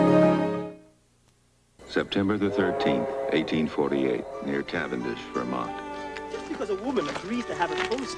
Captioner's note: men are arguing in the background